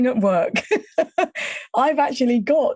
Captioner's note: chuckling